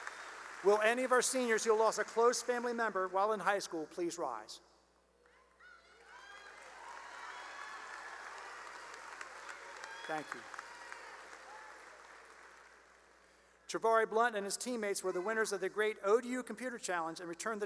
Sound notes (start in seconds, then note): 0.0 cheering and applause; 5.7 cheering and applause